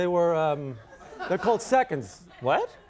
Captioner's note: audience laughs